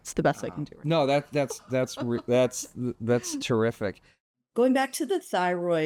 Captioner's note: laughs